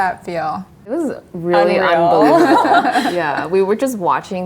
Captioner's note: laughs